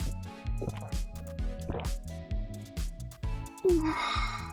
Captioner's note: puh!